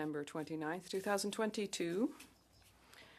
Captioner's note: speaking French